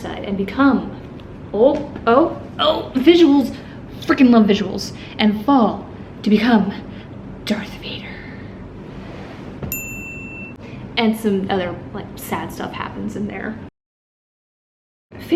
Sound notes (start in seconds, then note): 9.7 bright ding